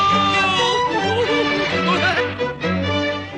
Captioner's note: giggles